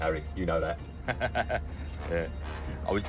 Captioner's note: laughs